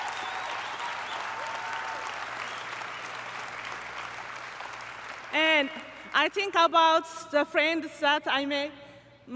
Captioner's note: applause